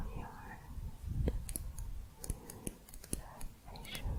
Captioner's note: light tapping